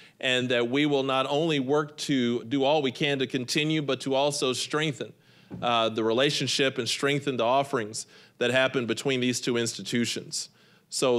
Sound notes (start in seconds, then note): none